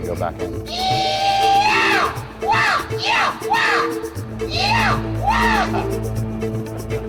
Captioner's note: thrilling music; yelling